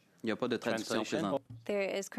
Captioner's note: speaking French